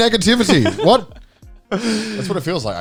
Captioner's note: all laughing